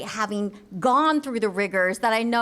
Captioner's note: none